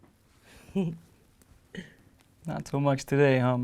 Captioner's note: laughs